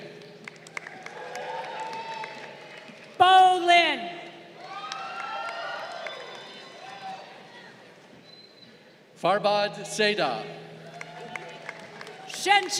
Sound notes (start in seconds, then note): 0.2 crowd cheering; 4.5 crowd cheering; 10.8 crowd applauding